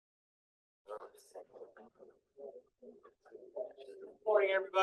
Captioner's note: attendees chatting